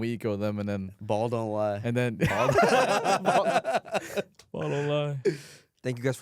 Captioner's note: laughing; laughs